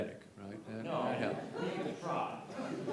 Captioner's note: laughter